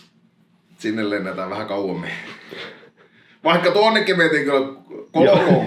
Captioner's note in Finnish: niiskauttaa